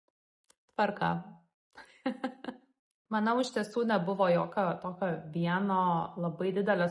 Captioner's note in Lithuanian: juokias